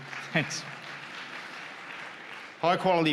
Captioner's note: cheers